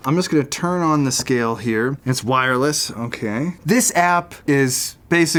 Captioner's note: none